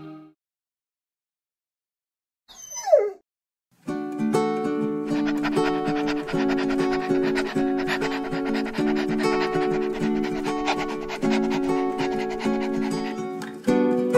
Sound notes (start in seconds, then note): 2.5 dog Cries; 6.0 dog Panting